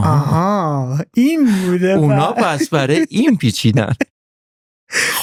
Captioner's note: laughs